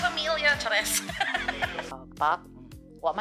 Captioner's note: laughs at herself